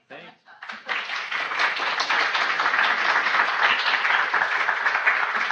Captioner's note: audience applauding